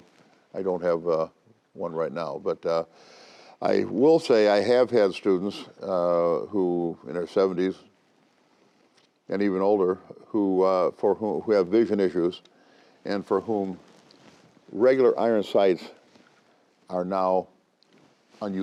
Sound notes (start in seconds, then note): none